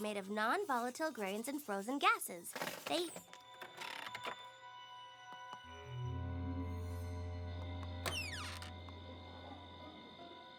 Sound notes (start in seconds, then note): 3.6 creaking; 8.0 hinges creak